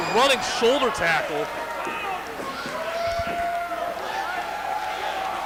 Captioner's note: crowd cheers and yells